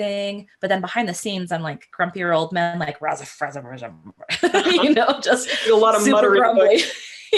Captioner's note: grumble sounds